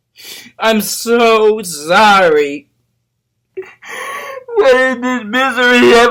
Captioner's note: llora